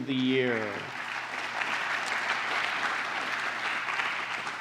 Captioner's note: applause